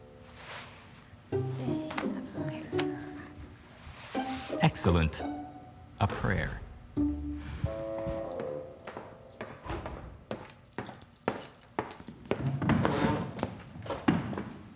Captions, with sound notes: - (reluctant mumbling) - Excellent, a prayer. (footsteps) (chair scraping)